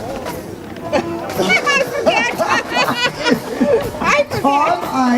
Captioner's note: laughs